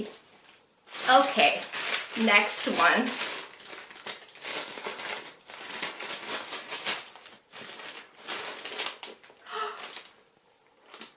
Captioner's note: gasps